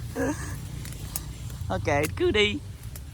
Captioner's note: laughing loudly